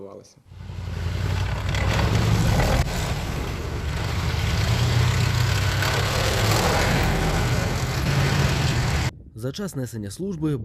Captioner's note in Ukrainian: їдуть танки